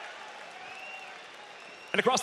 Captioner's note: scattered cheering, applause